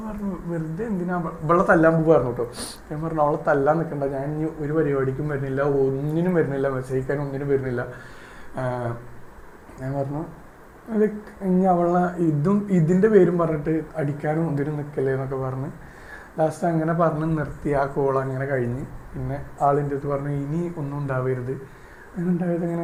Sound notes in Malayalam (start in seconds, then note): 2.4 ചീറ്റുന്നു